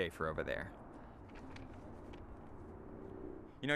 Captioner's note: rustling